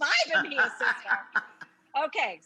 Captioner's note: Rachael laughs